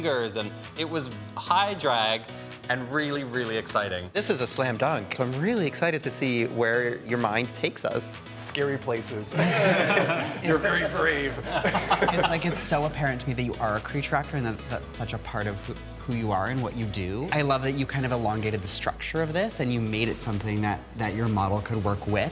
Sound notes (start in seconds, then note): 9.3 all chuckling